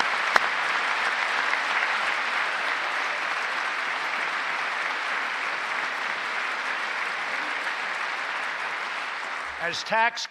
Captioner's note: applause